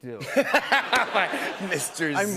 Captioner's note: laughter